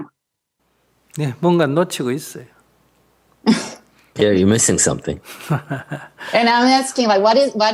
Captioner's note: laughter